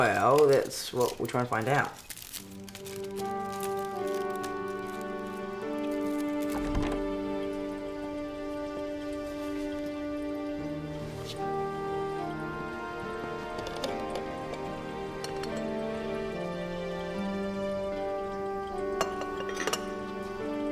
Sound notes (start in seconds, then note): 2.6 gentle music; 6.8 water gurgling